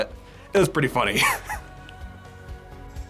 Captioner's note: laughs